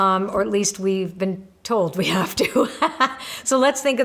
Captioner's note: laughs